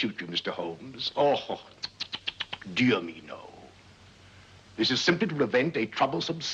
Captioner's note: clicks tongue